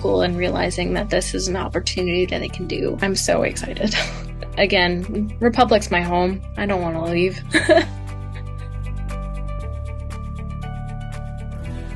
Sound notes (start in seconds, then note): 7.5 laughs; 9.0 uplifting music